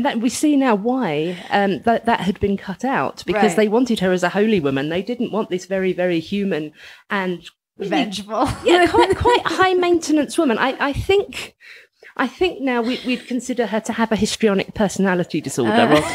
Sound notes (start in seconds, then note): 8.6 laughs